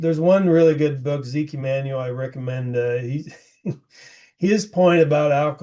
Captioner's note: laughs